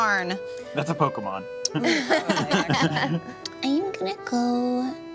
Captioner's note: laughs